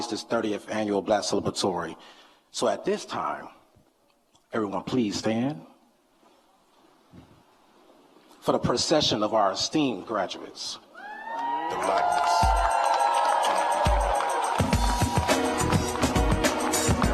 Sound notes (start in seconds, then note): 11.2 applause; 11.7 hip hop music